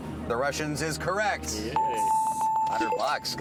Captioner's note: bells